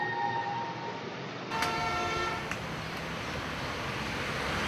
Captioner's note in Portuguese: Ruídos urbanos